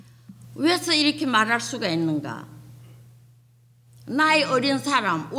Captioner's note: speaking foreign language